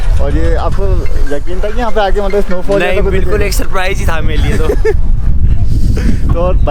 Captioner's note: laughs